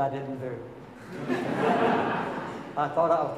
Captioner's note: audience laughing